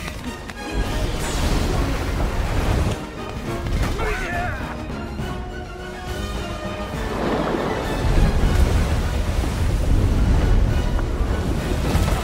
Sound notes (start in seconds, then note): 3.9 all Yell